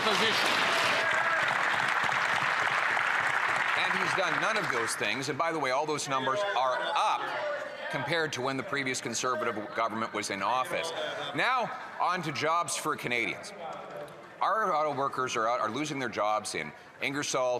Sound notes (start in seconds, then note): 2.6 some Applause